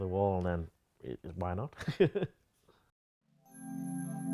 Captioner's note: laughs